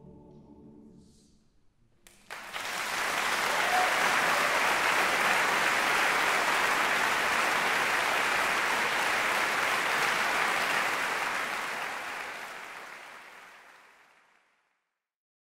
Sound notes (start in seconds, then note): 2.2 audience clapping